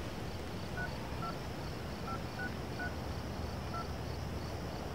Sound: phone beeping

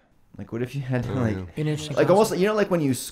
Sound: murmuring

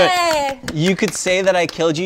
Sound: applause

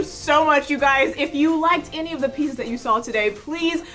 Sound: wind rushing

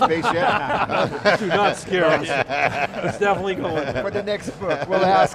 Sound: group laughing together; group speaking together

